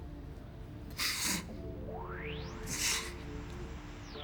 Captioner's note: gasps